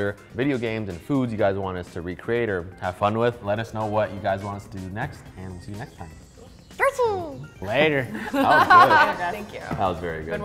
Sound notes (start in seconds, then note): 8.1 laughs